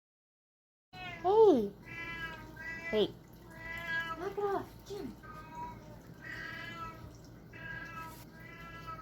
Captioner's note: cat meowing many times